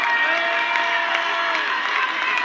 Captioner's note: crowd applauds; crowd cheers